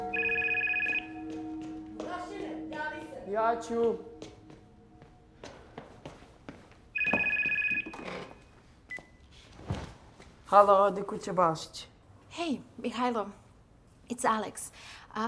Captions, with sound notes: (phone rings) (phone ringing) - Hey Mihajlo, it's Aleks.